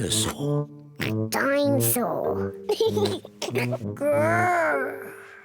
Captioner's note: oinks; laughs